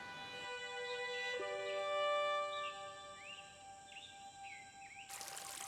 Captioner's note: birds, cicadas chirping